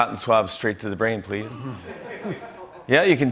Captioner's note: laughter